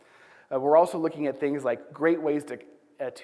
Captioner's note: none